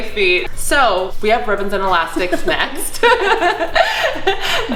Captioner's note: laughs